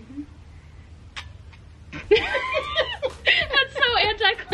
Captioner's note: laughs